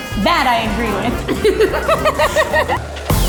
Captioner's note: laughing; upbeat music